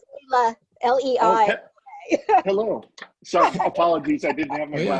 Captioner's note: laughing